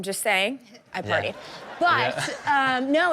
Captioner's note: audience laughing